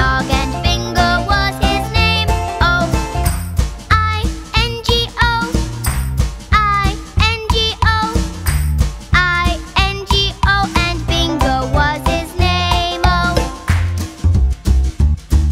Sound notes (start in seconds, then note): 3.2 clap; 5.4 clap